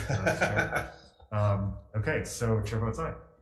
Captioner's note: laughter